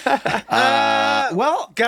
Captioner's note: everyone laughing